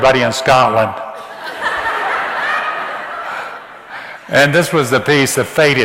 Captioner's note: audience laughs